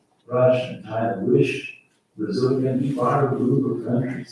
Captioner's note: faintly speaking